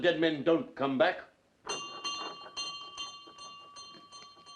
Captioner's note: bell rings